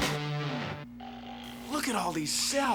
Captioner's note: snoring